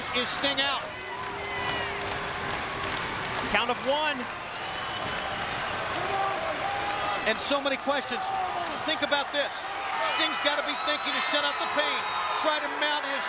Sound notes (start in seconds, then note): 0.4 applause